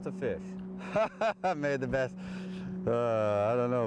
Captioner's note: laughter